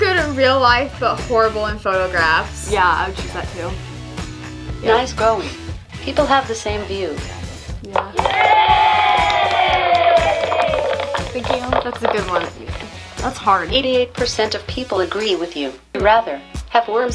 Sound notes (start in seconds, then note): 9.9 applause